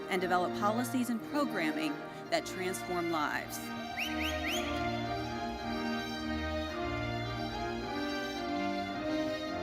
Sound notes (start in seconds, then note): 3.8 audience member whistles; 5.1 gentle classical music continues